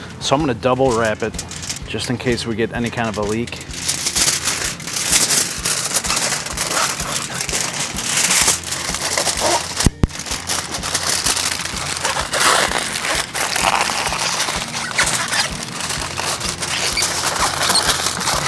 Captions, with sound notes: So I'm gonna double wrap it just in case we get any kind of a leak. (foil crunching)